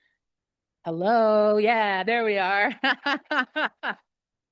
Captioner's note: laughs